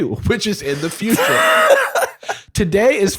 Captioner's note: laughing